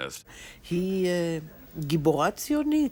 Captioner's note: in Hebrew